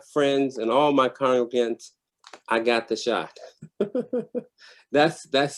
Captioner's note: laughs